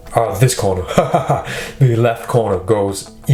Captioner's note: laughs